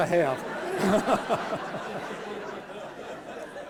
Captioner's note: laughter